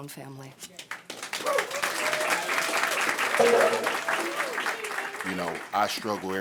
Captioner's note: audience applauding